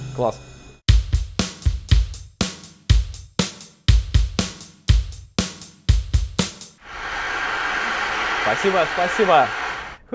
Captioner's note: sound of applause